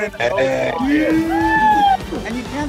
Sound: cheering

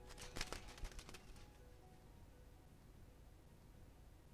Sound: butterfly flapping noise

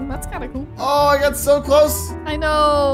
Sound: gasping

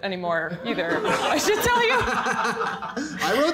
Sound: laughter

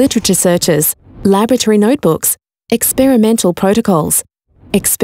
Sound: none

